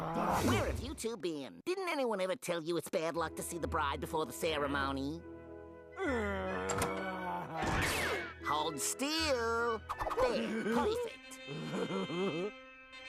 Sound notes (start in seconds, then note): 11.4 laughing